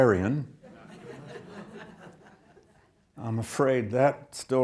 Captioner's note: audience laughs